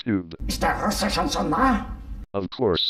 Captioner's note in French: au téléphone